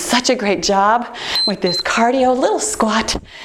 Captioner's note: timer beeps